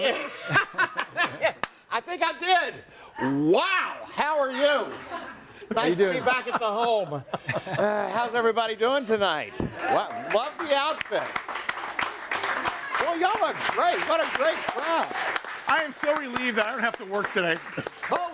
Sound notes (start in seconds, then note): 0.5 laughs; 7.9 group laughs; 9.5 audience applauds; 11.7 audience applauds